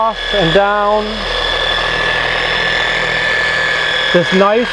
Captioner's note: polisher working